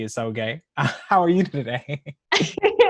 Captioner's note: chuckles; laughs